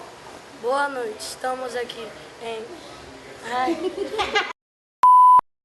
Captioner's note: laughs